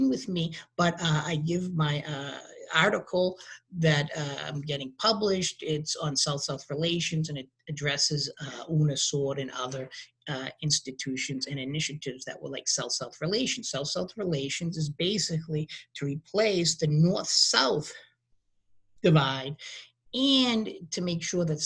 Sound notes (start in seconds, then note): 7.8 speaking in a foreign language